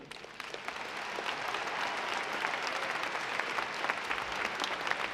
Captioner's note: audience applauding